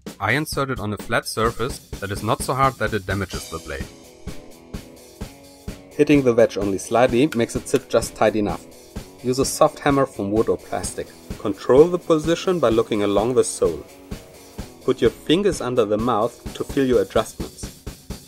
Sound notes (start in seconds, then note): 10.8 tapping